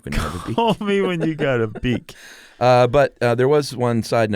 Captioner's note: both laugh